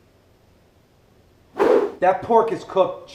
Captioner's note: whoosh